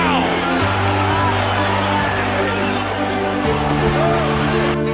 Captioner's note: crowd cheering